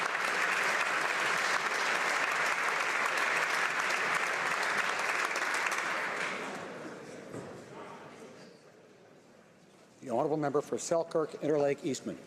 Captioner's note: applause